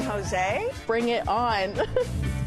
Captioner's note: laughs